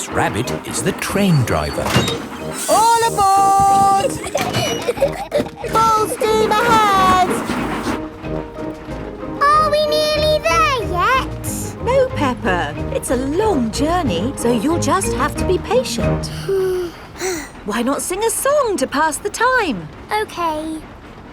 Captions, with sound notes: Miss Rabbit is the train driver. All aboard! (GIGGLING) Full steam ahead! Are we nearly there yet? No, Peppa. It's a long journey, so you'll just have to be patient. (BOTH SIGH) Why not sing a song to pass the time? Okay.